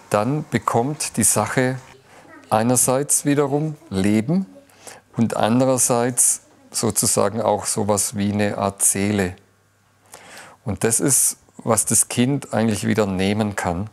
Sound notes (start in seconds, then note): none